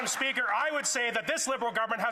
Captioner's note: some Applause